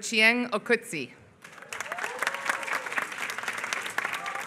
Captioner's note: applause